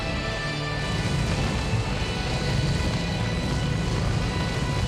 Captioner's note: flames roaring